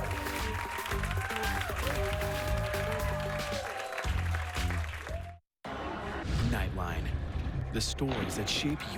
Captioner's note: cheers and applause